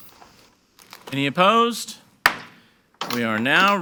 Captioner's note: gavel bangs